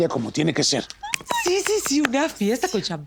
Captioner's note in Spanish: aplauso